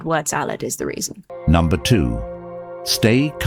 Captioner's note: AI Voice